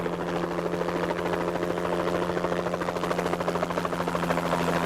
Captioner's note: helicopter blade continues whirring